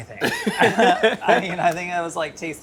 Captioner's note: laughing